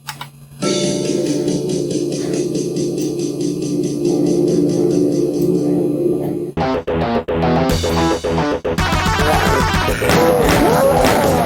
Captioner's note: very awesome UltraSound enabled DOOM sound